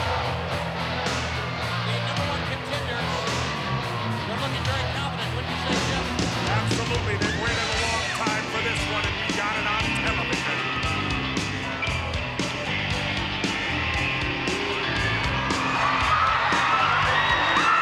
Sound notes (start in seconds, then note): 11.5 crowd cheering; 11.5 lively music